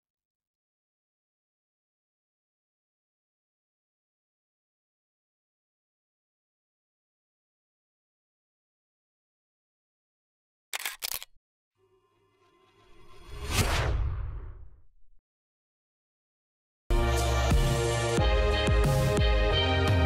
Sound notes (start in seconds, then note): 10.7 camera shutter clicking; 12.6 logo whooshing; 17.0 upbeat logo music